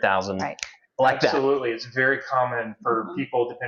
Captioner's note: snaps finger